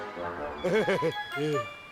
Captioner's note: laughs